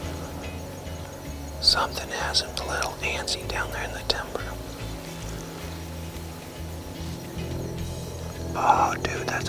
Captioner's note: whispering